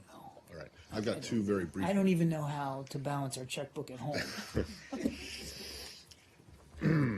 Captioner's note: laughter